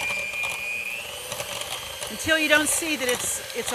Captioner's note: blender machine roaring